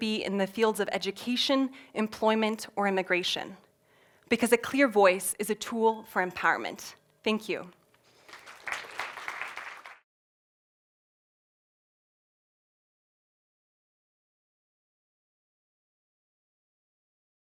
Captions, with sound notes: be in the fields of education, employment or immigration because a clear voice is a tool for empowerment. Thank you. [APPLAUSE]